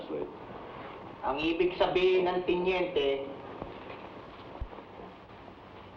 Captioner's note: man speaking in Tagalog